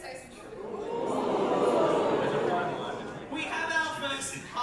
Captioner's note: audience oohs